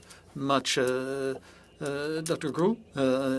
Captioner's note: speaking French